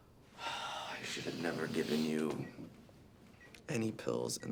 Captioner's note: sighs